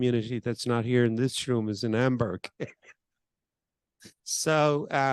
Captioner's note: laughs